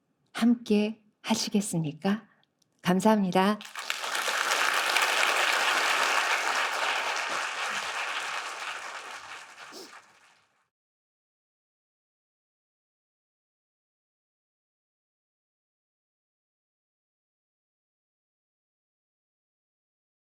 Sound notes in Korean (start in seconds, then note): 5.5 박수